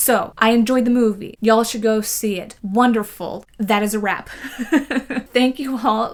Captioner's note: laughs